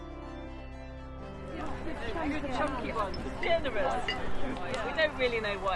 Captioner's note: incidental chatter